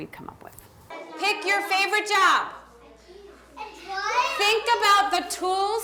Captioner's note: children talking